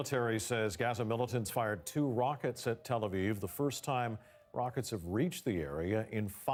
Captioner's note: sirens